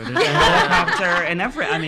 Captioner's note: laughs